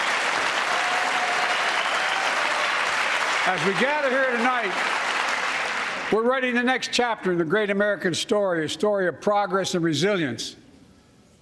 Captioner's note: cheers and applause